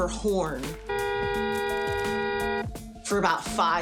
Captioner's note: long single car horn